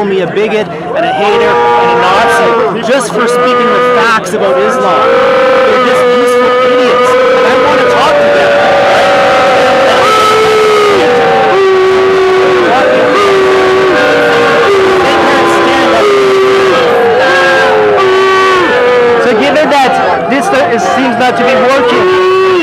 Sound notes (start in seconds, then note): 9.5 booing